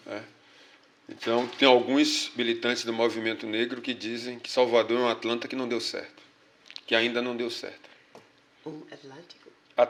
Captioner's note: speaking portuguese